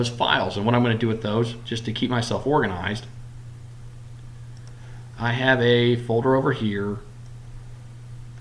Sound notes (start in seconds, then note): 4.5 click; 7.2 clicking